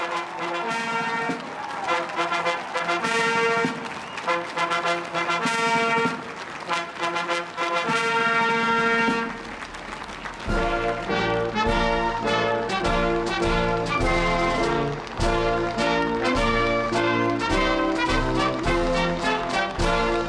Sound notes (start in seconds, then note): 5.9 applause; 5.9 cheering